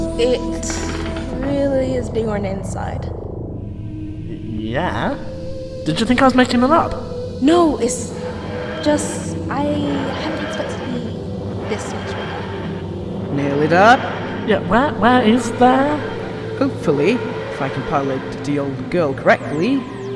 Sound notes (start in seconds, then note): none